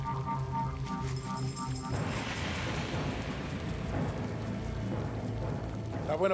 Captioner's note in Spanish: ruidos al trabajar